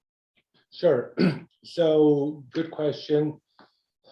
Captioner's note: cough